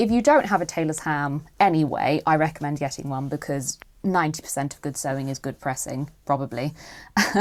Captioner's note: laughs